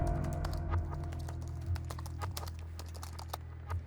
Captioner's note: typing